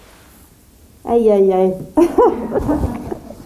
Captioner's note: laughs